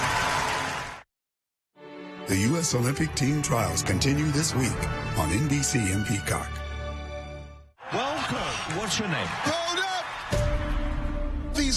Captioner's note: cheers and applause